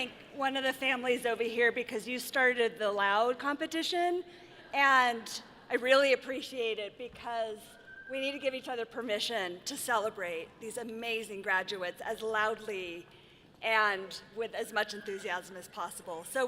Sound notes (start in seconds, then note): none